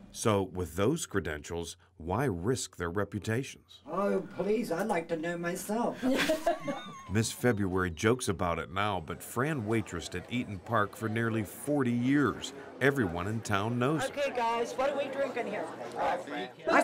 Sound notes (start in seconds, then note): 6.0 ladies chuckling